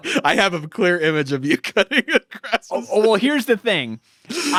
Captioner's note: laughs